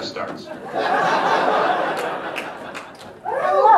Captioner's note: audience laughter